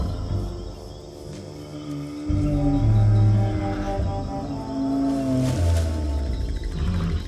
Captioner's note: dinosaur groaning